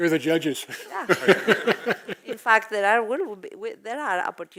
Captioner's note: laugh